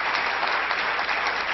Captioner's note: applause